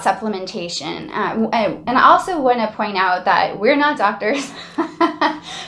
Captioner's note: laughing